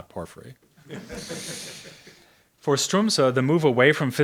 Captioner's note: audience laughs